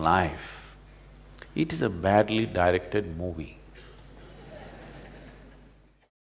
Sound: laughter

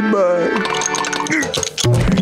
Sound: grunting

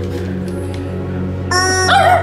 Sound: honking; dog barking

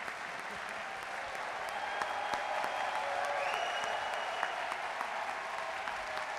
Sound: audience cheering and clapping

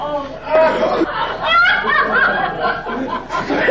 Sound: audience laughing

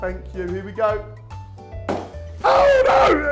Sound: balloon pops

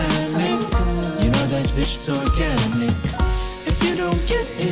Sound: beep

